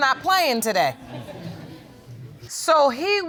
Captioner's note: audience chuckling